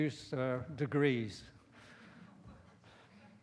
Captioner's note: laughter